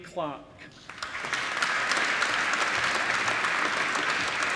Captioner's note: applause